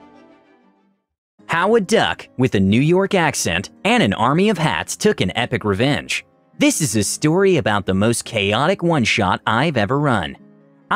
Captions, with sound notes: How A Duck (With A New York Accent) And An Army Of Hats Get Their Sweet Revenge This is a story about the most chaotic oneshot I've ever run.